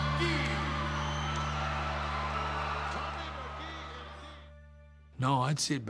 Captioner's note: applause